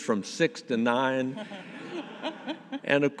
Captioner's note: audience laughing